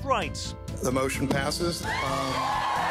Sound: crowd cheering

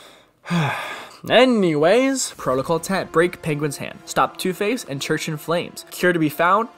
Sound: sigh

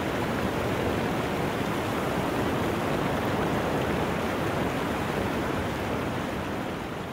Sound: sound of water flowing through dam

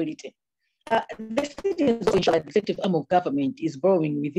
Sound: audio distorts

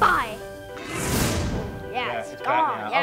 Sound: magic explosion

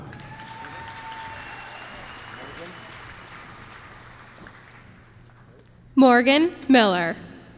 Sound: applause

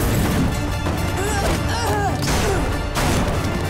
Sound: grunting

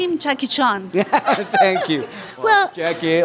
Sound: laughter

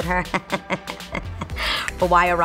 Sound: chuckling

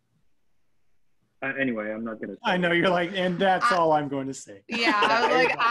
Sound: laughs

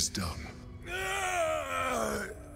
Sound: grunts

